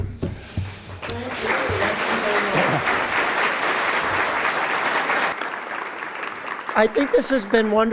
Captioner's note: applause